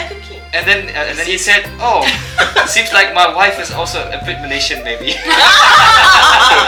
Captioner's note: laugh